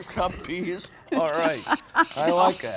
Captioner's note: laughing